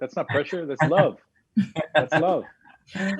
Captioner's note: laughing